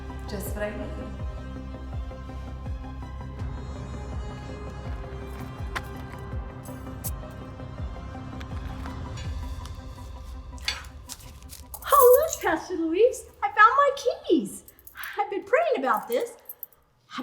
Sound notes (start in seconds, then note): 1.6 upbeat suspenseful music; 10.7 gasps